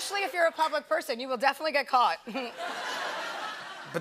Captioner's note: laughter